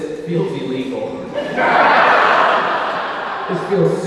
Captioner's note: audience laughing